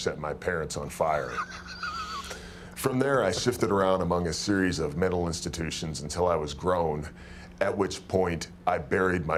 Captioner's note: laugh